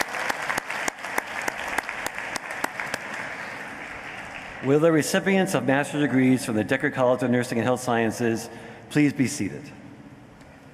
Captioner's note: cheering and applause